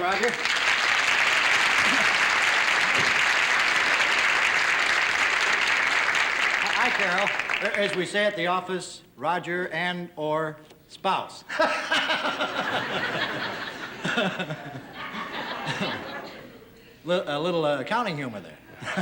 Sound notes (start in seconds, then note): 0.0 applause; 11.5 laughs